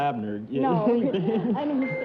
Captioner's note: laughter; bell